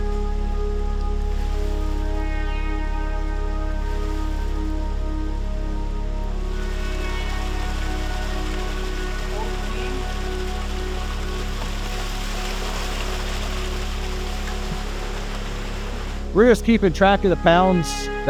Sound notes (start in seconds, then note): 0.2 lighthearted techno music; 6.8 water rushing